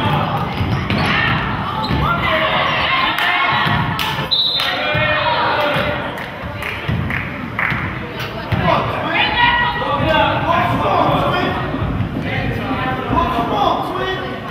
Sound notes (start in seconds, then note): 4.3 whistle blows